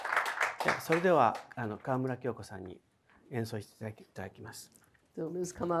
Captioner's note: speaking in foreign language